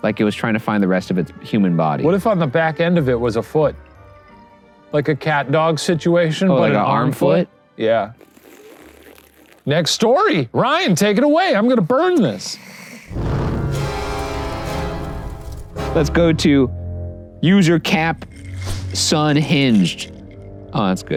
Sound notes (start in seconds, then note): 8.1 slurping; 13.0 ominous music